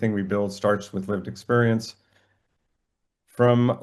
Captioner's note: none